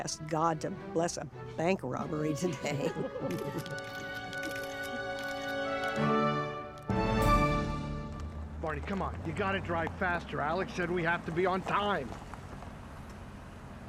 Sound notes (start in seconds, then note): 2.4 group chuckling; 3.2 camera shutters clicking